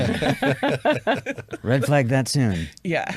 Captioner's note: chuckle